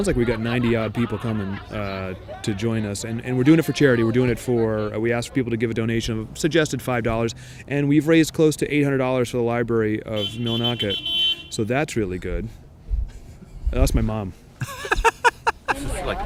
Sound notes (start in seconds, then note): 10.2 car beep; 14.6 laughs